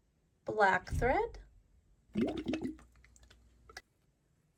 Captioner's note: water gurgling